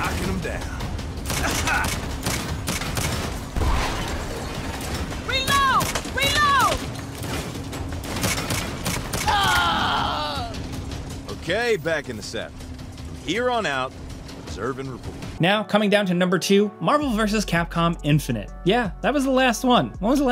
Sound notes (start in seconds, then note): 1.1 driver grunts; 3.7 motorcycle thuds; 8.0 bullets popping; 9.2 cyclist screams